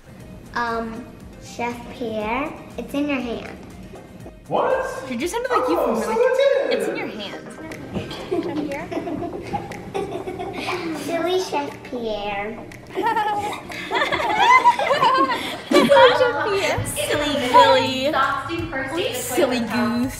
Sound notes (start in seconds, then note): 8.0 girls laughing; 12.9 mimic giggling